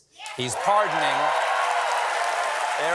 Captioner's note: cheers and applause